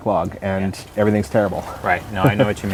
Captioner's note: laughs